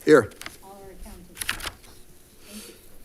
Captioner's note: paper rustling